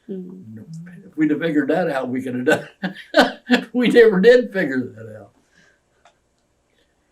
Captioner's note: laughs